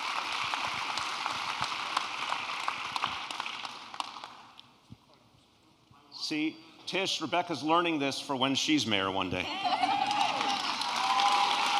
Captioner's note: applause